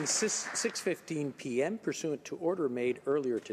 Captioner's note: some Applause